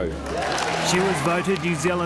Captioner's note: applause, cheers